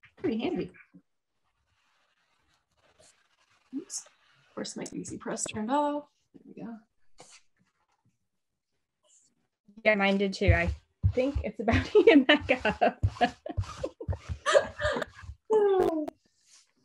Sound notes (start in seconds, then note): 11.7 laughs